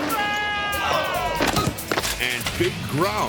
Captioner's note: biker screams; bike groans; bike thuds